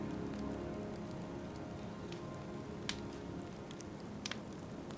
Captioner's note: fire crackling